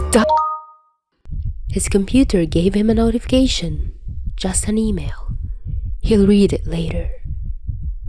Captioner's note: ding